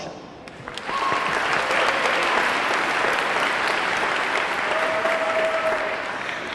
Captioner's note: audience clapping; audience cheering